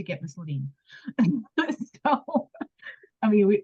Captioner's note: laughs